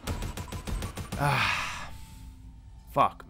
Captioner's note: sigh